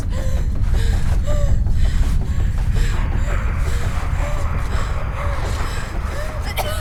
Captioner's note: Abby pants; urgent music